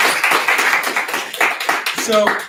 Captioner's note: applause